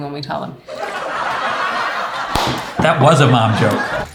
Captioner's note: crowd laugh track